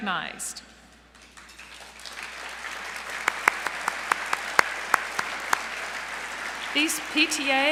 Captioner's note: applause